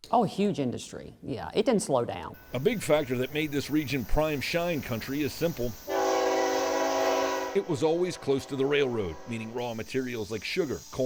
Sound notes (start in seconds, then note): 5.8 train hooting